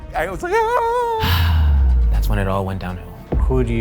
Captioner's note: sighs